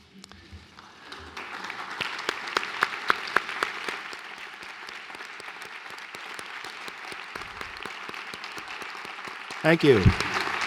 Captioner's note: applause